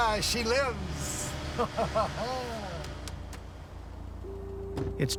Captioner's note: laughing